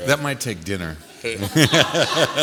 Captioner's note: laughter